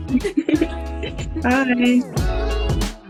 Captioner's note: laughing